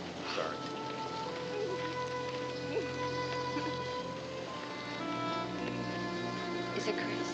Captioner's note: somber music; sobbing